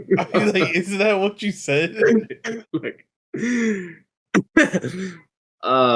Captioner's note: laughs; laughs